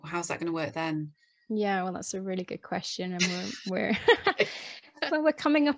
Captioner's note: laughs